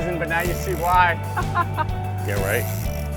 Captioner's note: laughs